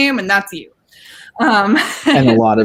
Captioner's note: laughing